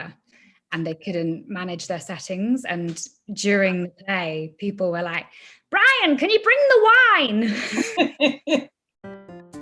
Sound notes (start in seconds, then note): 7.4 laughter